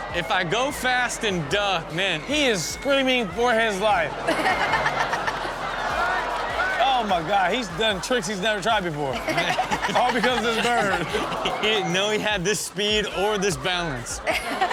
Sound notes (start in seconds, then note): 4.9 audience laughs; 9.5 audience laughs; 13.8 audience laughs